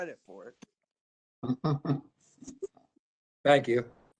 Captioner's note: laughter